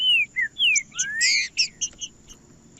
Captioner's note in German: trinca ferro cantando